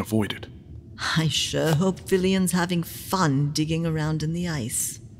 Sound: Sarcastic

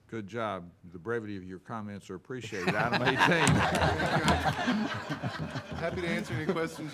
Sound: all laughing

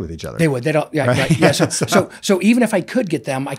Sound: both laughing

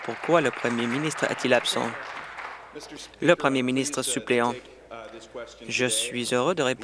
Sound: applause

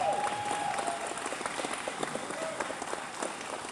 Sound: cheers

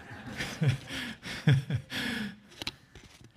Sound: laughs

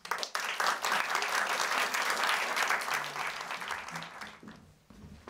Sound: applause

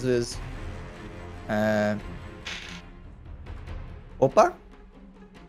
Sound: die rolling

